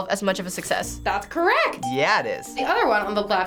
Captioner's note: bell rings